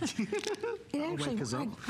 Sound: laughter

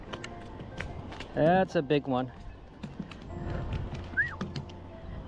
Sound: whistles

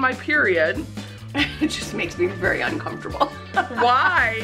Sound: chuckles

